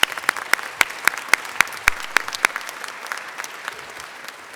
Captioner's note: applause